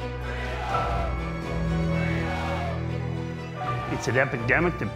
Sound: protestors chanting

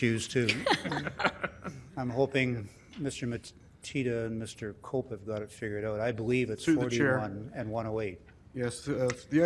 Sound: laughter

